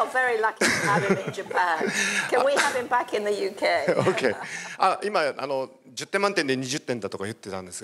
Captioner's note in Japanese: 笑い